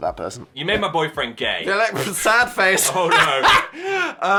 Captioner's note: laughing